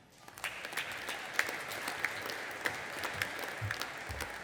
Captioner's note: audience applauding